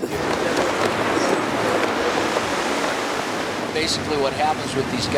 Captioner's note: waves crash